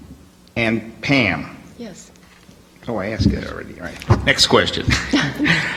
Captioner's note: laughs